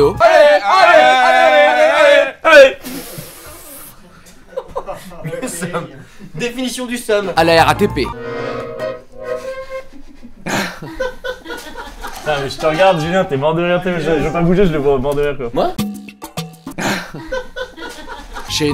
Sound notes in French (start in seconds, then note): 3.0 Pouffement; 4.2 Rires; 9.9 Rires; 16.8 Rires